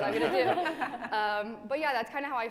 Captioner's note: laughing